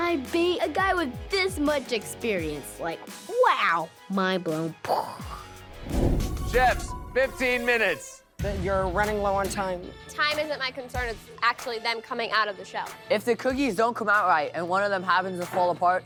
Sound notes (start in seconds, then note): 5.7 imitates explosion